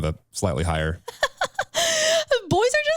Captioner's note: laughing